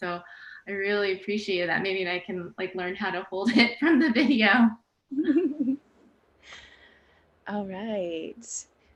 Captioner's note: laughs